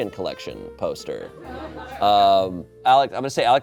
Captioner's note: audience laughing